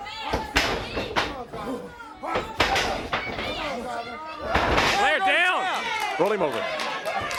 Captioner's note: crowd chatter